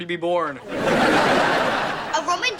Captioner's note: audience laughing